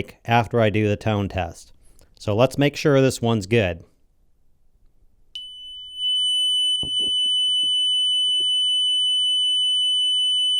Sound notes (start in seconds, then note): 6.7 tone generator beeping